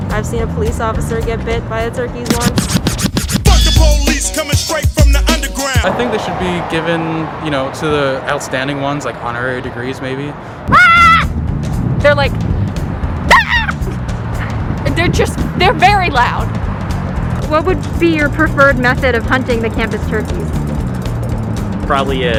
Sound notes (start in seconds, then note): 10.6 screams; 13.3 imitates turkey